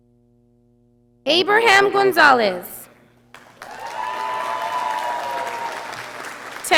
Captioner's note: audience applauding